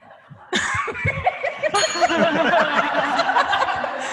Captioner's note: rang the bell; laughter